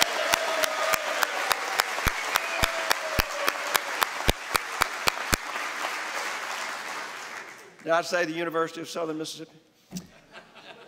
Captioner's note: applause